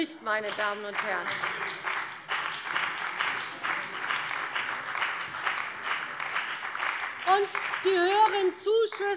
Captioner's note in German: Beifall bei der CDU und dem BÜNDNIS 90/DIE GRÜNEN